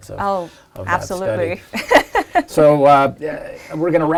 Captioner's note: laugh